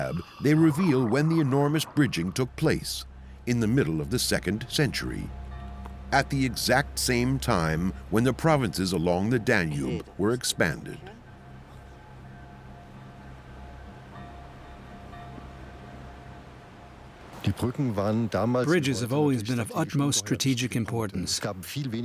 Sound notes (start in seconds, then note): 17.4 speaking German